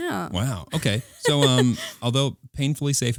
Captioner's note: laughing